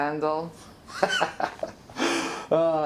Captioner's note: Randall laughs